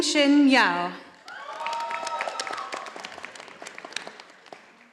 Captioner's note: audience applauding